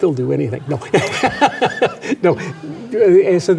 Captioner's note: laughs